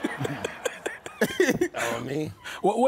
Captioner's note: laughing